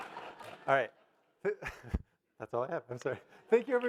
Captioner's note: audience laugh; laughs